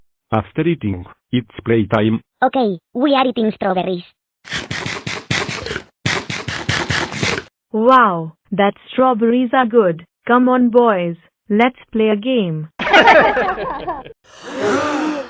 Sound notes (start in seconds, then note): 5.5 eating; 12.8 laughing